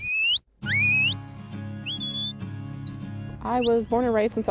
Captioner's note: whistling